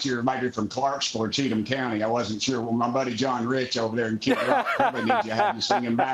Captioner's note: laughter